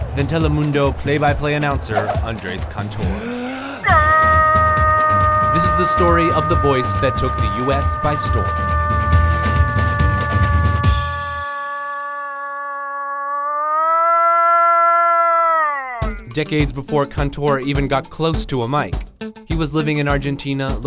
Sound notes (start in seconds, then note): 3.1 inhaling loudly; 4.2 yelling